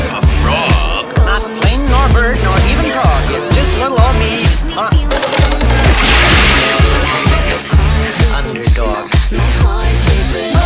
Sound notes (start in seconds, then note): 5.1 crash! & splash!; 6.6 laughs!